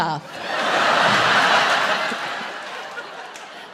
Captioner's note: audience laughing